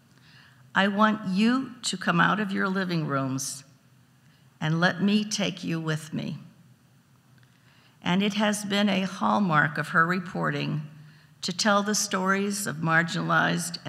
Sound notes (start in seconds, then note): none